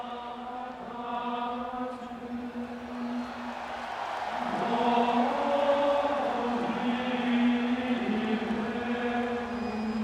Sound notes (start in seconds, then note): 0.0 gregorian chant music; 4.5 crowd cheering